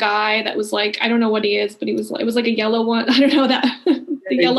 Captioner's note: laughing